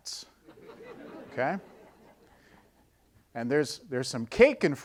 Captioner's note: audience laughing